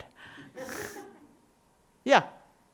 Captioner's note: audience laughing